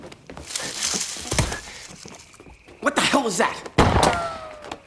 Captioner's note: grunts; gunshot